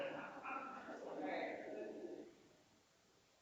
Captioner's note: all laughing